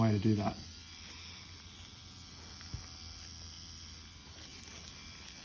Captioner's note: machine whirring